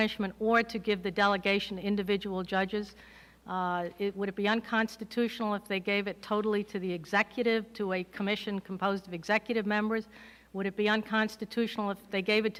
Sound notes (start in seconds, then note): none